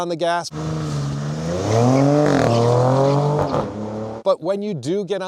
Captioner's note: engine revs